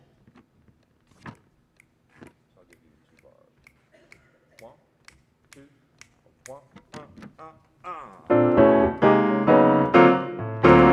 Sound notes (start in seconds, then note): 1.7 snaps fingers; 6.9 vocalizing; 8.2 jazz music